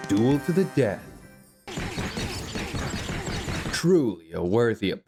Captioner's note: sounds of an epic battle